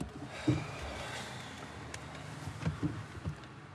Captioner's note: parking brake cranks; sighs